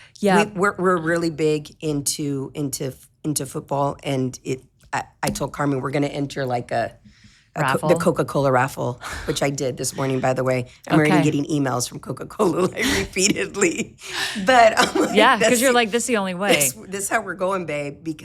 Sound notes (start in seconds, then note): 9.9 chuckling; 13.6 both chuckling